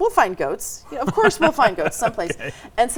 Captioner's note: laughing